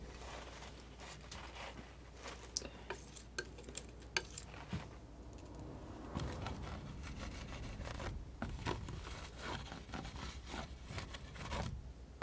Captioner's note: scratching